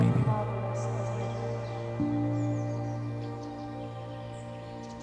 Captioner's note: birds chirping